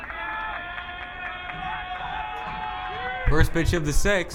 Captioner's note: crowd cheering